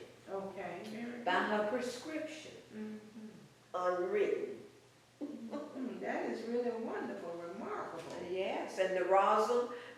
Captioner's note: laughs